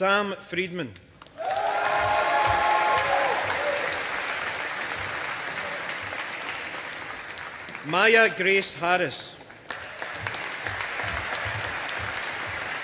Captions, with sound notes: Sam Freedman. (AUDIENCE APPLAUDING) Maya Grace Harris. (AUDIENCE APPLAUDING)